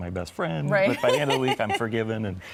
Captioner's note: laughs